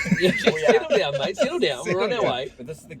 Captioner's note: group laughs